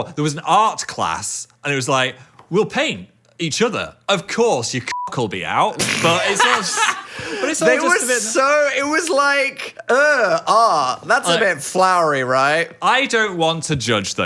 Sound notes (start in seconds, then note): 4.9 beep; 5.8 laughs